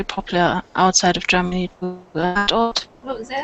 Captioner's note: mic starts making noises